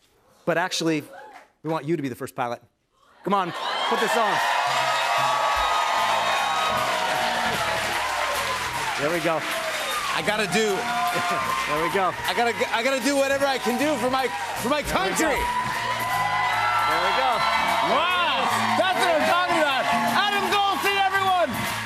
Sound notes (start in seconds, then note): 5.1 cheers and applause